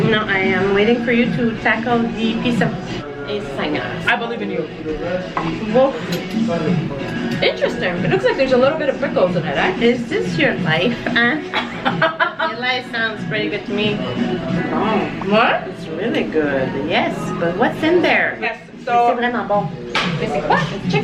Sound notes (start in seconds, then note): 11.4 laughs